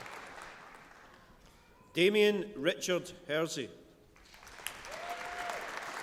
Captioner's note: applause